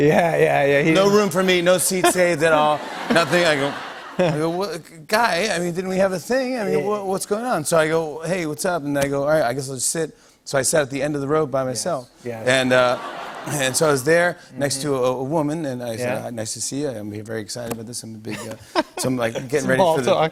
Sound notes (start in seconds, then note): 1.8 laughter; 1.9 light laughter; 12.6 laughter